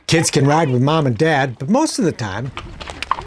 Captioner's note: hooves stomping